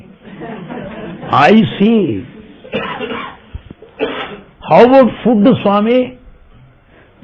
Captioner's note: laughter